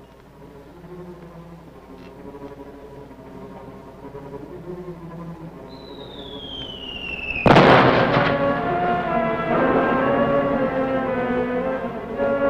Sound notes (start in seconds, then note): 0.2 suspenseful music; 5.6 whistling; 6.8 explosion; 7.6 suspenseful music